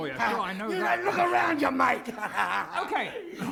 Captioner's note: laugh